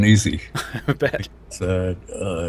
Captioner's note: chuckles